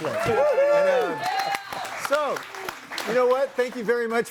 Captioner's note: audience applauds and cheers